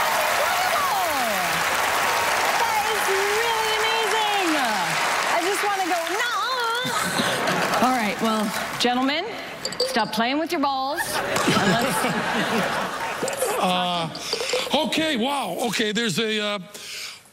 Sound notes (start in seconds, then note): 10.9 laughter